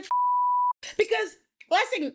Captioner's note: beep